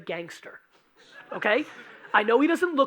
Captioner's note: audience laughing